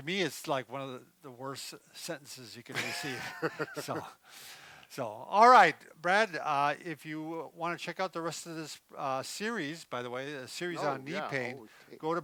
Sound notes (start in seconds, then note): 2.7 laughing